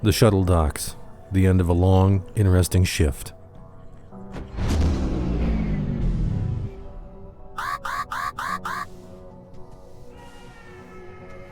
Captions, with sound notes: The shuttle docks; the end of a long, interesting shift. [engine power down noise] [alarm beeps] [distant scream]